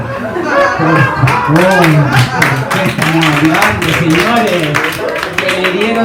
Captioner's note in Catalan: rialles i aplaudiment